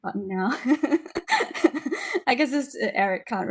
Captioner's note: laughing